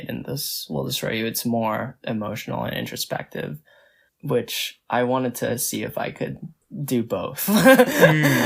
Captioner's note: laughs